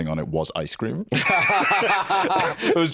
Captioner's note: both laugh